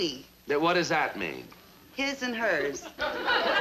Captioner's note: people laughing